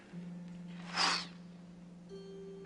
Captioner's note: adorable sound effect